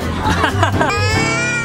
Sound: chuckles

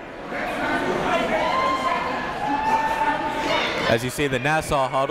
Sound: crowd cheering

